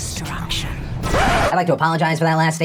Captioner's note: record scratch